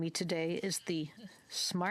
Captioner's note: speaking French